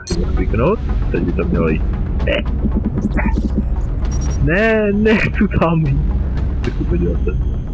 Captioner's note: sounds of strain